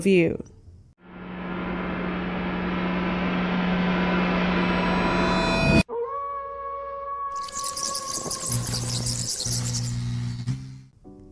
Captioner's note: spooky noises